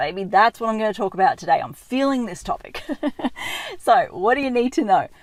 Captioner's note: laughing